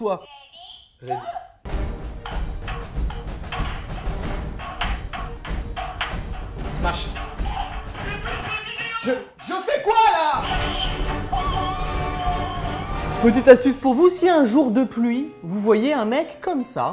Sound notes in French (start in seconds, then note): 2.4 Bruits d'une partie de Ping-Pong